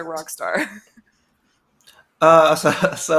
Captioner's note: laughs